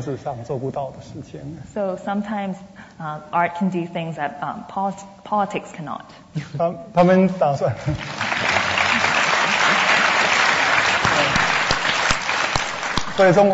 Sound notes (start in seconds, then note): 0.0 speaking Mandarin; 7.6 speaking Mandarin; 7.9 audience applause; 13.0 speaking Mandarin